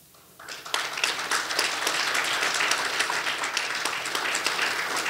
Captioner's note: audience applauding